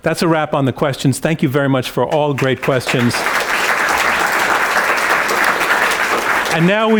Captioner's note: applause